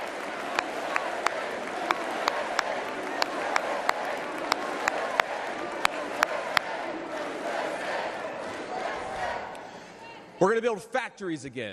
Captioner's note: cheers and applause